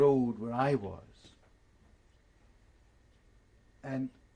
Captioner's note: pauses for 3 seconds